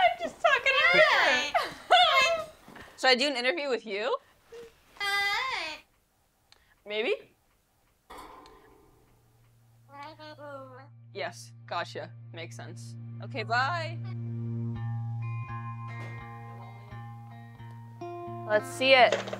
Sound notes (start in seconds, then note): 9.8 parrot mumbling